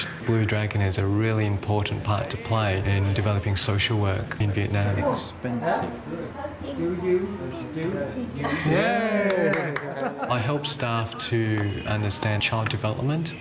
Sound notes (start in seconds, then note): 8.7 all cheer